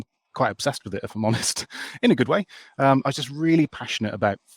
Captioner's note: laughs